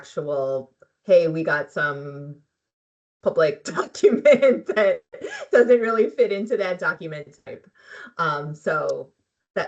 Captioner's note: laughing